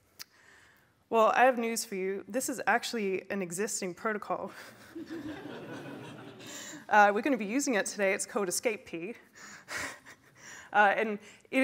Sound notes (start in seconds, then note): 4.6 laughter; 10.4 laughs